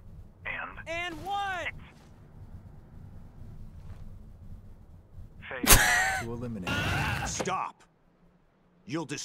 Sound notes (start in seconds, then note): 5.5 wheeze